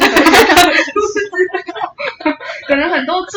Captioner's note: laughter